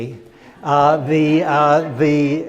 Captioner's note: crowd laughs